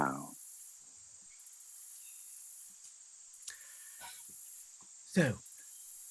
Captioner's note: crickets chirping